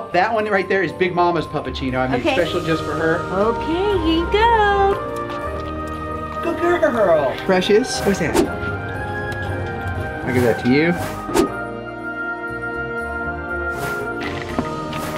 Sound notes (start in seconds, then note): 5.0 Fiona lapping; 11.5 uplifting music